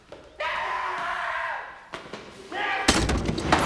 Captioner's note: screams